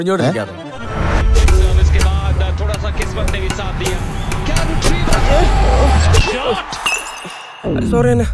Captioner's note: Hindi commentary of a badminton game